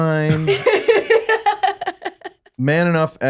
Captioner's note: laughing